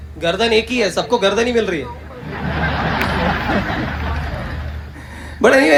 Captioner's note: loud Audience Laughter